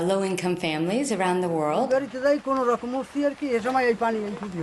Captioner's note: man speaks bengali